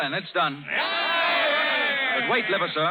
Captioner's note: chatter